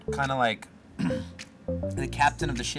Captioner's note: clears throat